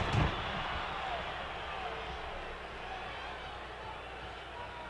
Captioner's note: audience cheering